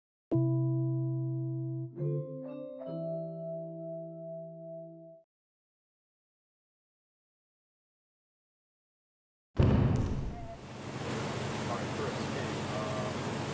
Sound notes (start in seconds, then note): 9.0 crash, sound of flowing water